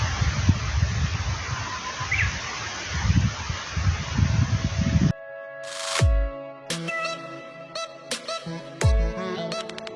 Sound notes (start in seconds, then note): 2.0 warbler cries